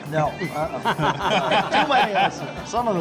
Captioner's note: laughing